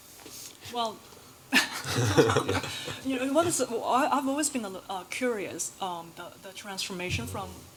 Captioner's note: laughs